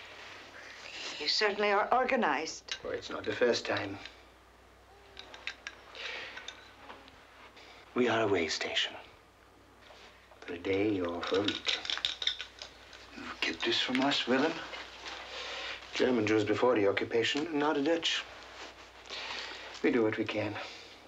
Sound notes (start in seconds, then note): 6.7 baby cooing